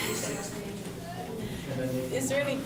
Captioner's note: laughs